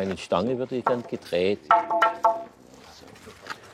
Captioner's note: wooden clatter